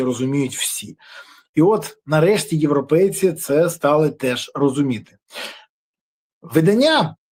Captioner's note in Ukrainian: сопіння